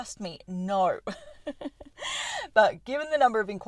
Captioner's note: laughter